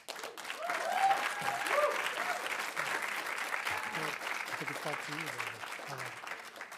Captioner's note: audience applauding; audience cheering